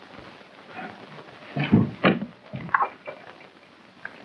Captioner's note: grunting